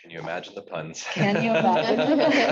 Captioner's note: participants laughing